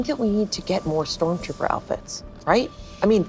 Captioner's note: none